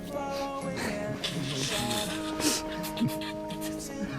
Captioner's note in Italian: risate